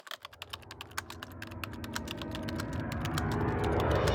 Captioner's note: typing sounds